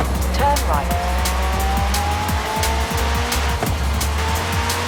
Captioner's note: car engine revving